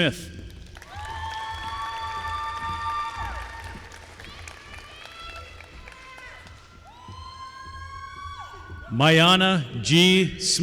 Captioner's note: applause